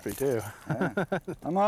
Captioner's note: laughter